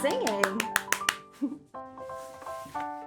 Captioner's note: clapping; playful piano music; giggles; lighthearted piano music